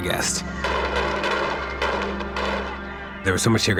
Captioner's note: gunshots firing